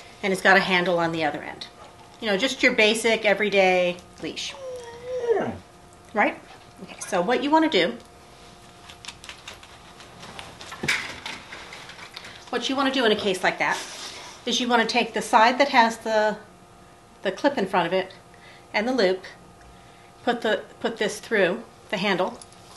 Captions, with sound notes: and it's got a handle on the other end, you know, just your basic every day leash. (dog wails) Right? Okay. So what you want to do, what you want to do in a case like that is, you want to take the side that has the clip in front of it and the loop, put this through the handle